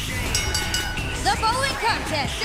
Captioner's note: bell ringing